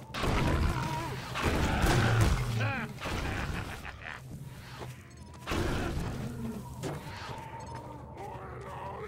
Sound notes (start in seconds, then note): 2.9 laughter